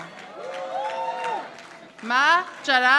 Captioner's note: audience applauding